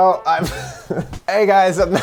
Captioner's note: chuckles